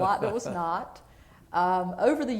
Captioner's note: laughter